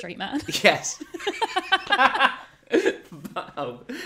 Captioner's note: laughs